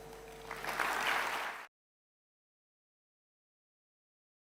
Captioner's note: audience applauding